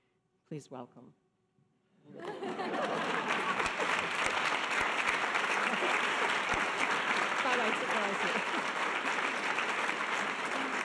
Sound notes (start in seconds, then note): 2.1 audience laughter applause; 7.8 laughs